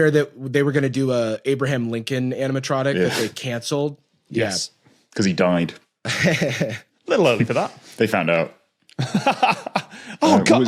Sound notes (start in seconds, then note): 6.1 chuckles; 8.9 laughs heartily